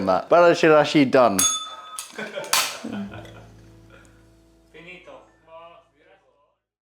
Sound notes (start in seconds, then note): 1.4 bell rings; 2.1 laughter